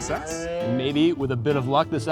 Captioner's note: cow moos